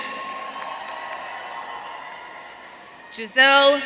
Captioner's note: audience cheering